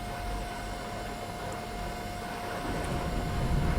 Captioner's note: thunderstorm continues